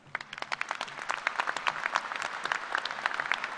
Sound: applause

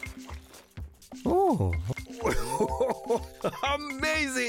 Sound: chuckling

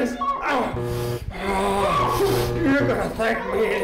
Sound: light buzzes; grunts

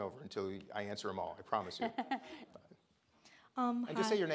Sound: laughs

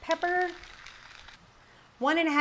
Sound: pepper grinding

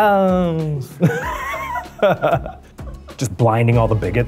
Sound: Eugene chuckles

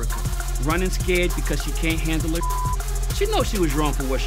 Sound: beep sound

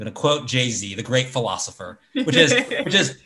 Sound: laughs

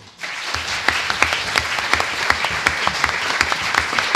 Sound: audience applauds

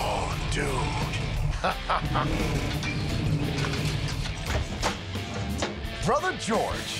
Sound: laughs

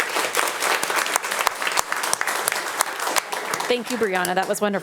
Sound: audience applauding

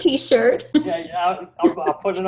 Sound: laughter

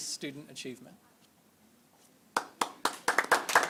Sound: applause

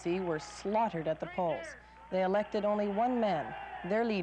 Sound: cheers

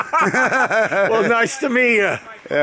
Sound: laughter

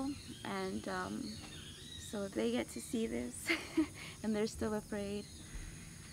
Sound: chuckles

